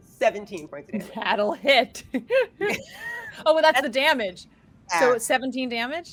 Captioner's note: laughs